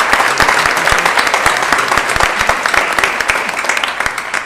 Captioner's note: applause